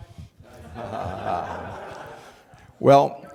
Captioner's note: laughter